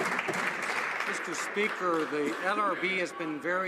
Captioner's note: some Applause